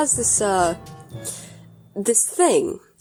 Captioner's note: inhale